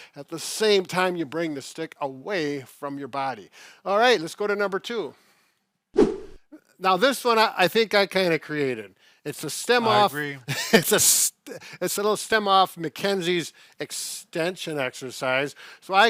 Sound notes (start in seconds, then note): 5.9 air whoosh; 10.4 laughs